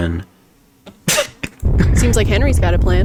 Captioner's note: laughs to myself